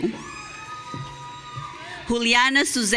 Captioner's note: audience cheering